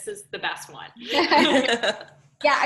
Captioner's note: laughter